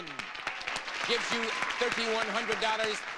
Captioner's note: audience applauding